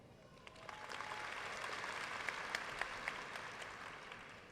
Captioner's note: audience applauds